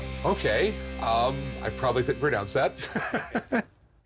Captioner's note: laughs